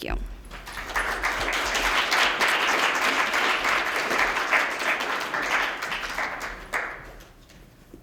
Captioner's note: applause